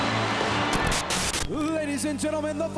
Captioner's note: upbeat music; static crackling